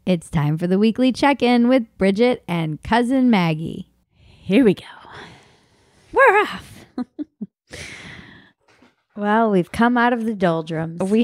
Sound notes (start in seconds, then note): 6.8 laughing